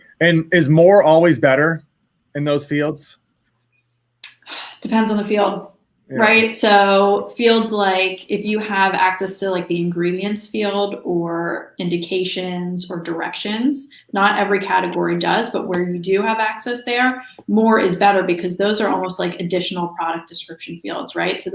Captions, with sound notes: - And is more always better in those fields? - (sighs) It depends on the field, right? So, fields like, if you have access to the ingredients field, or indications, or directions, not every category does, but where you do have access there, more is better, because those are almost like additional product description fields, right?